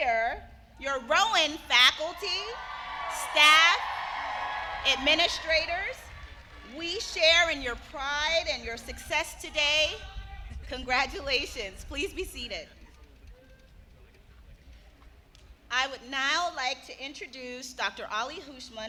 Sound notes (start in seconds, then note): 2.3 applause